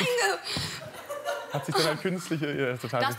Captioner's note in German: Gelächter